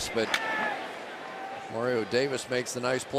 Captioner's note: players shouting